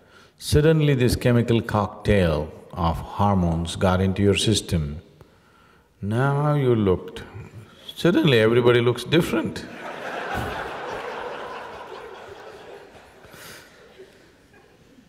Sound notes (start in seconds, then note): 9.7 laughter